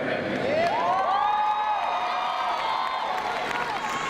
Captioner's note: crowd cheers